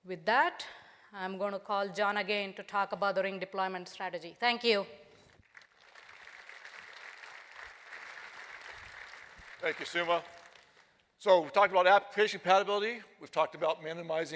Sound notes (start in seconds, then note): 5.2 applause